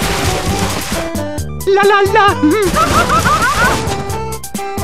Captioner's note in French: chantonne